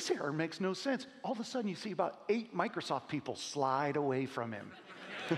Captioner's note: laughing